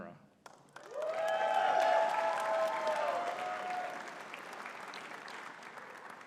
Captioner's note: audience cheering and clapping